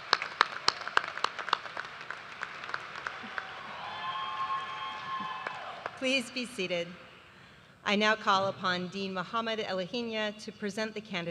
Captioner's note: cheers and applause